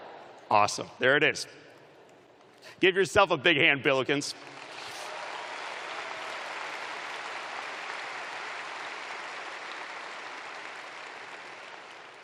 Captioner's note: cheers and applause